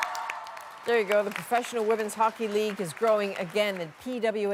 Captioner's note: applause